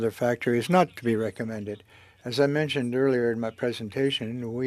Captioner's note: speaking French